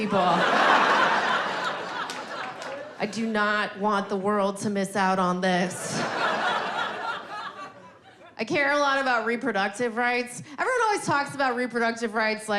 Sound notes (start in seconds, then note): 0.0 audience laughing; 5.6 audience laughing